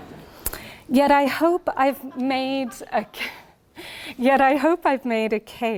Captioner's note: laughing